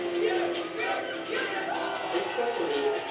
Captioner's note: cheering crowd; uplifting music; kids cheering